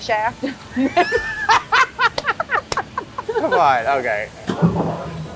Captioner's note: loud laughter